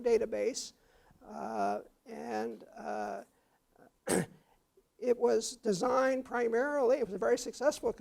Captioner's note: cough